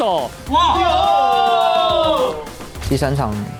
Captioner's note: TLN Staff Cheering